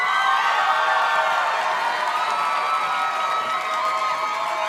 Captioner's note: audience cheers and claps